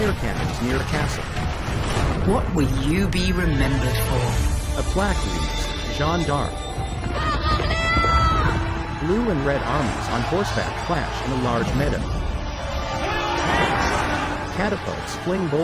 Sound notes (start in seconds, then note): 4.8 triumphant music playing; 7.1 joan of arc yells